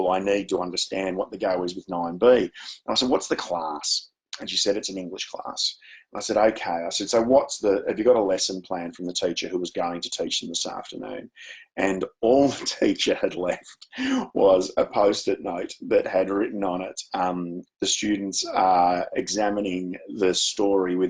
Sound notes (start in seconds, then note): 13.9 chuckles